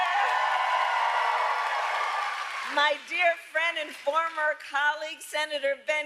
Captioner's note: applause